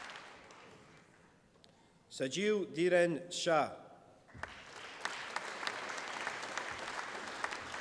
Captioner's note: applause